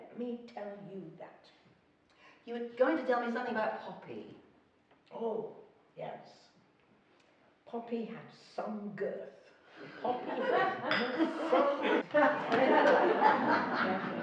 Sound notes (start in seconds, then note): 9.8 laughing